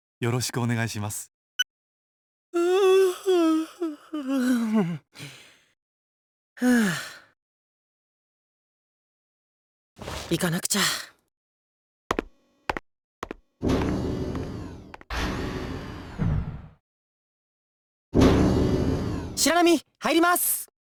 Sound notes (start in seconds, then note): 2.5 weary yawn; 6.6 weary groan; 8.3 silence